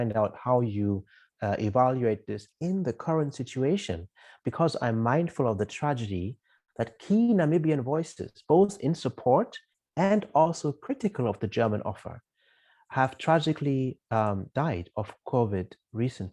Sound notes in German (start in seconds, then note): 10.2 in Deutsch